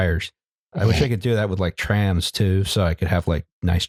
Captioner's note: snorts